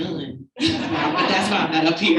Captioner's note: audience laughing